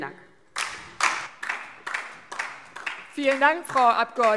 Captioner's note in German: Beifall DIE LINKE